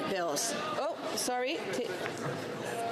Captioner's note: speaking French